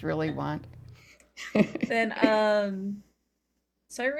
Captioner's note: laughs